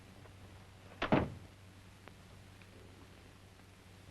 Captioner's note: door closes